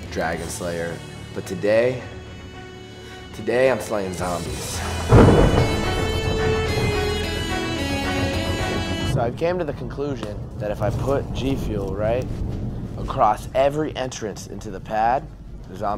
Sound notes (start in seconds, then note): 4.9 upbeat rock music; 5.0 thunder booming